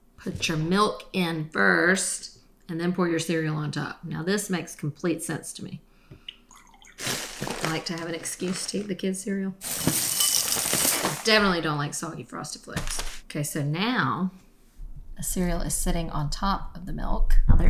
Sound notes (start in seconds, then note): 6.3 milk pouring; 9.6 cereal pouring